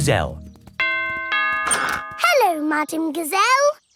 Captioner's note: doorbell rings